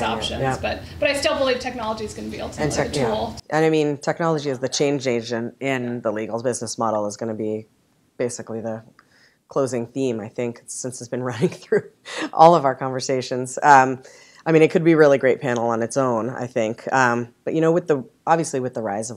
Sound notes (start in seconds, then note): 11.3 laughter